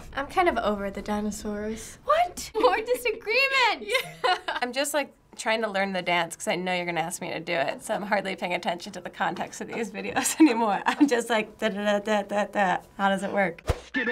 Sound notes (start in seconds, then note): 4.0 laughs; 10.6 chuckles